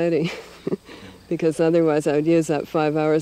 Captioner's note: laughs